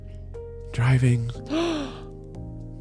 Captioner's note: gasps